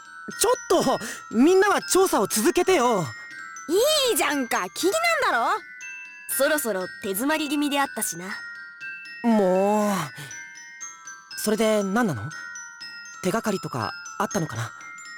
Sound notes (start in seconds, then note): 9.3 sigh